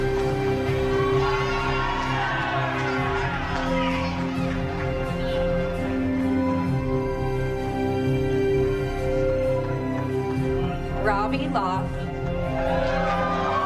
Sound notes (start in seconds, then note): 2.5 applause